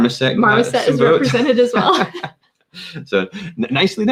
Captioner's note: laughs